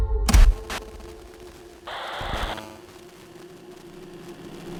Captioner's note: static